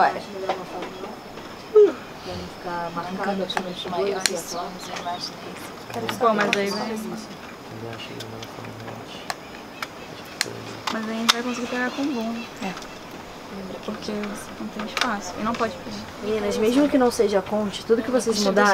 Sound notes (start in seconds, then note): 0.1 indistinct chatter in the background; 13.3 indistinct chatter continues